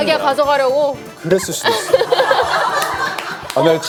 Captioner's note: clap